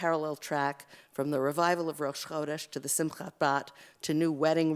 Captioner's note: Hebrew